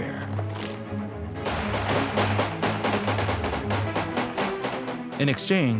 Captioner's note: gunfire